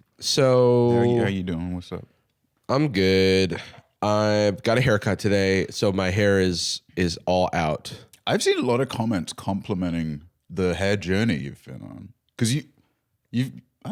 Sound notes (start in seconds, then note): none